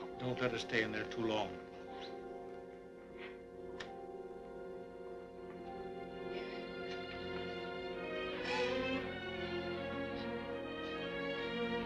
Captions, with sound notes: Don't let her stay in there too long. (sobbing)